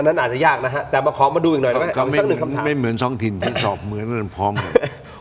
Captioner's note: clears throat